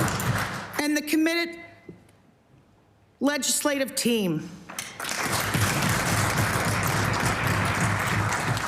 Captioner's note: applause